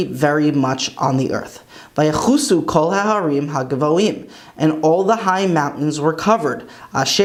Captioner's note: Hebrew